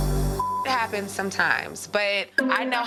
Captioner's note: beep